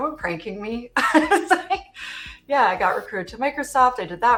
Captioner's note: laughs